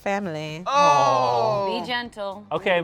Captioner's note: cast exclaims